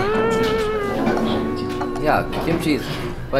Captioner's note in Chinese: 哭哭